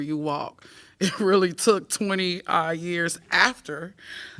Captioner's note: laughter